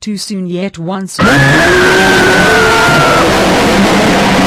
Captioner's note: screaming